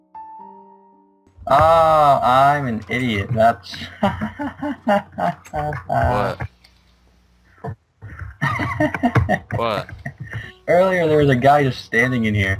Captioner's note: laughter